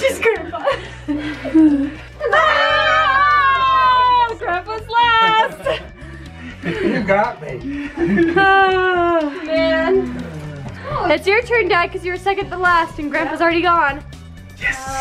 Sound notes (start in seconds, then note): 2.2 all exclaiming